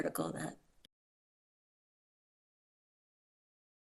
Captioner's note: audio cuts out